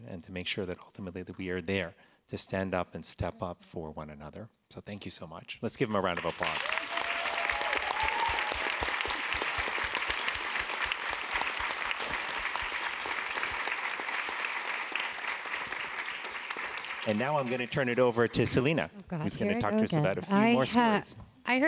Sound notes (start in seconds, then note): 8.0 applause